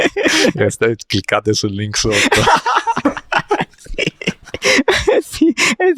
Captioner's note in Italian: risate; risate